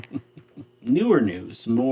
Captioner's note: laughing